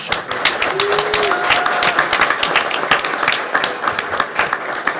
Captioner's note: people clapping